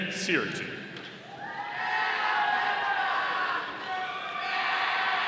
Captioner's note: audience cheering